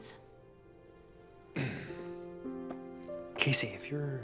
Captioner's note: clears throat